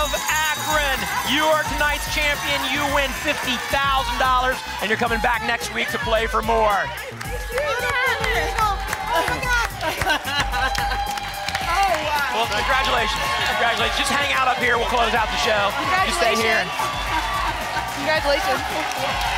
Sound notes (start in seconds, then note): 7.2 applause and cheering cont; 9.7 laughter